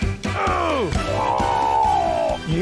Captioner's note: groans; grunts